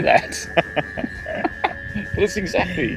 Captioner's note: laughing